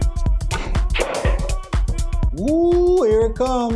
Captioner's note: balls clacking